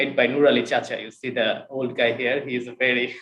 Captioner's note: chuckles